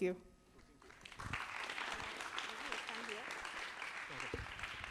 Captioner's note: applause